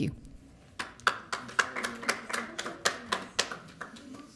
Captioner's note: audience clapping